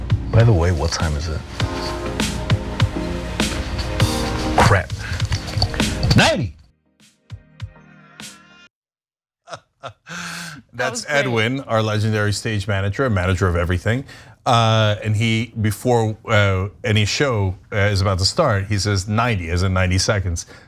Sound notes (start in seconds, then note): 9.5 laugh